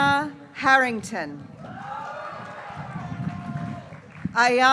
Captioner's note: graduates cheering